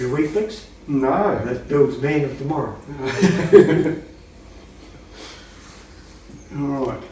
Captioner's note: laughing